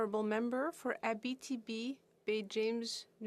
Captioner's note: speaking French